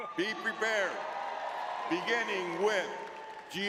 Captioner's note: audience cheering